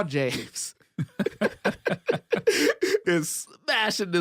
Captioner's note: both laugh